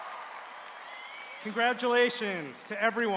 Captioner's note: cheering